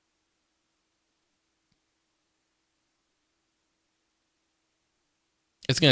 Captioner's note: silence